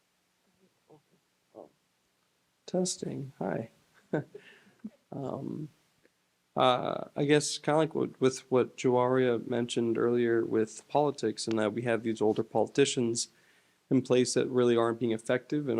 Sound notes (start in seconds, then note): 4.1 laughs